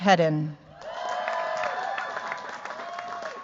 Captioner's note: cheers, applause